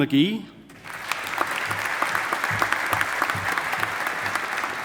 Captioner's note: audience applauding